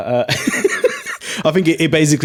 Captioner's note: laughs